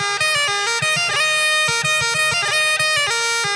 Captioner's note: none